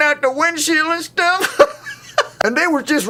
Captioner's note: laughs